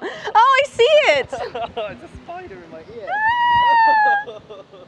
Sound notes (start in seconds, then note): 1.3 laughter; 3.0 shrieking